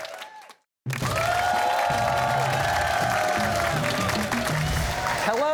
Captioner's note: cheers and applause